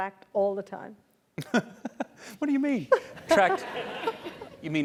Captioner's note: laugh